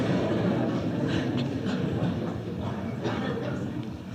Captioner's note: laughs; laughter